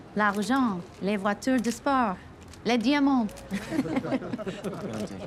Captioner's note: women speaks in a foreign language; woman and men laugh